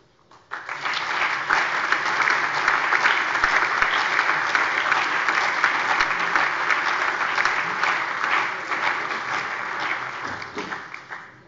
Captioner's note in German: Allgemeiner Beifall